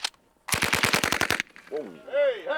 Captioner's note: gunfire; voiceover